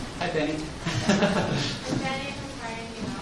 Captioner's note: laughing